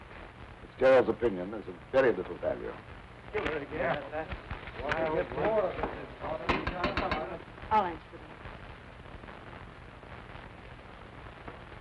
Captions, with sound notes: - Fitzgerald's opinion is of very little value. (men murmuring) (knocking on door) - I'll answer the door.